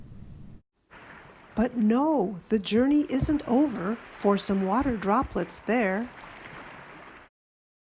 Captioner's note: waves